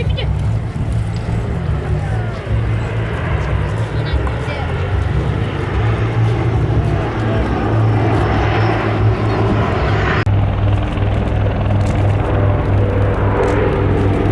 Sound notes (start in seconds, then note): 9.5 laughs